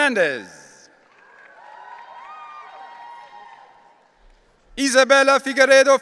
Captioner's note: audience cheering